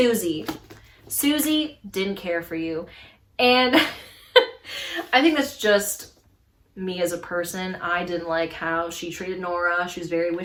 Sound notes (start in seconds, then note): 3.6 laughs